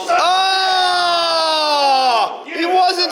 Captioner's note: all shouting